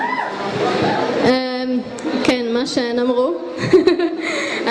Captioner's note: laughs